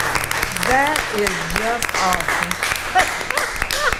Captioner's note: attendees applauding